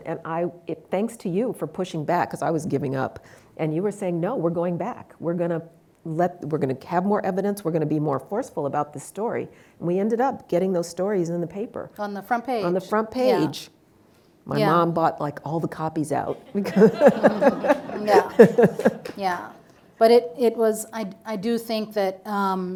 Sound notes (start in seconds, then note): 16.2 laughs; 16.4 audience laughing